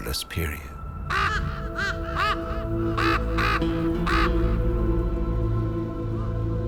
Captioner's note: ominous music; ravens cawing